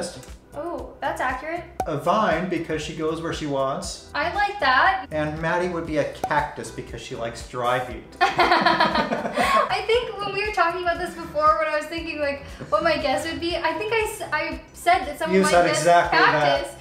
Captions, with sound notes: Oh that's accurate. A vine because she goes where she wants. I like that. And Maddie would be a cactus because she likes dry heat. [Laughter] I think when we were talking about this before, when I was thinking like, what my guess would be, I think I said... You said exactly that!